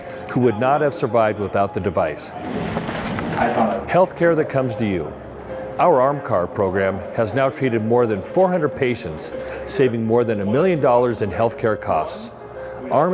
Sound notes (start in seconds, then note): none